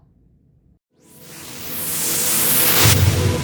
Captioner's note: whooshing